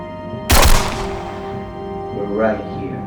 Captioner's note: guns bangs